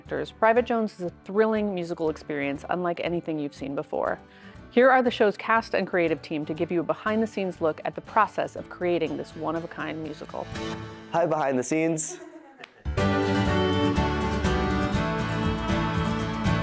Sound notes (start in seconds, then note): 11.9 producer laughs; 13.0 lighthearted music